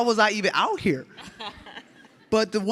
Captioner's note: audience laughs